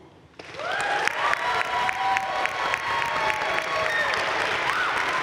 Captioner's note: audience cheering and applauding